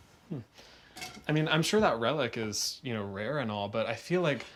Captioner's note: none